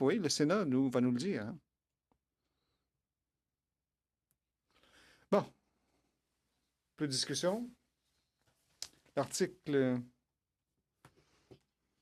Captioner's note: speaking French